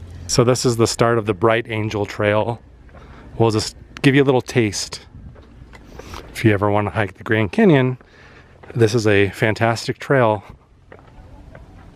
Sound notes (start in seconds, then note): none